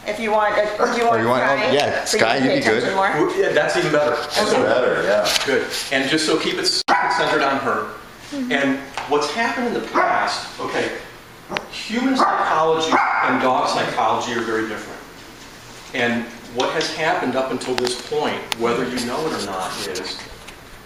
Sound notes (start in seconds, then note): 6.8 Lulu's barking is becoming more muted. Wait for it; 12.1 Lulu gives a few more barks and quarter barks; 12.1 Quarter barks from Lulu